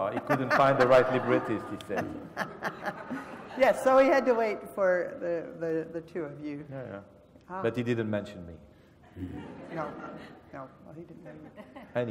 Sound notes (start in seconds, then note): 0.0 laugh; 9.1 laugh